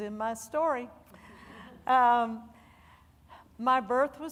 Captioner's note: audience laughing